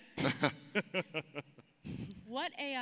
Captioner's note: laughs